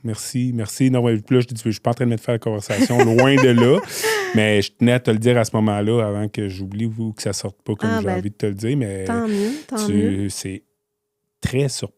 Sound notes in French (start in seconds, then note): 2.7 rires